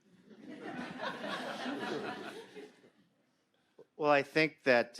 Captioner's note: audience laughing